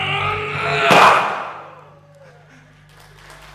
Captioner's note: smash sound; audience applause